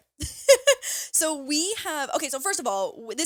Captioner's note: laughs